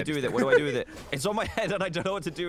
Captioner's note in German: männlicher gamer 3 kichert